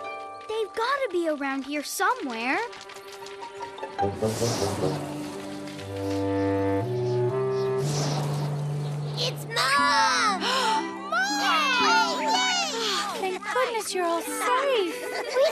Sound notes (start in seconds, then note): 4.3 gust of wind; 7.9 gust of wind; 10.4 gasps